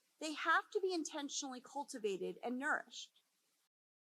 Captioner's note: none